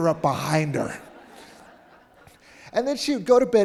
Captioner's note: audience laughing